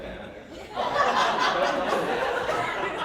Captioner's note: laughing